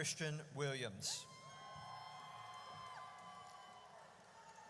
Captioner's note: audience cheers